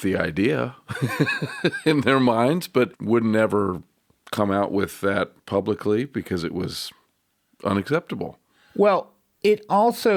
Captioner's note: laughs